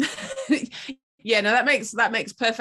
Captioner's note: laughing